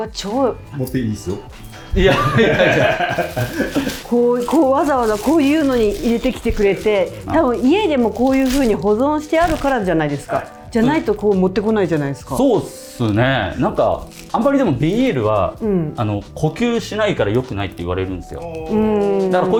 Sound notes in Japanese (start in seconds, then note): 1.9 笑い